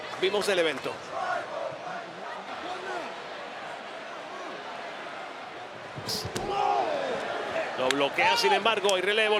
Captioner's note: applause